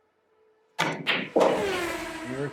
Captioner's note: balls clacking; race car speeding